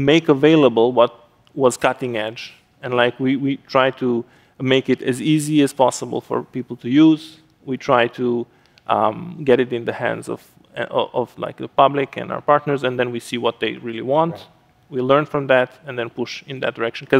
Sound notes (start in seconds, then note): none